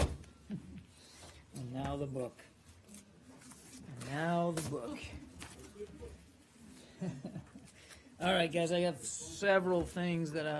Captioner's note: laughter